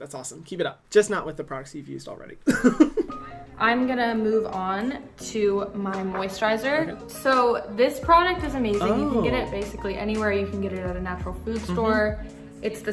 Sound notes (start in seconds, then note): 2.4 laughs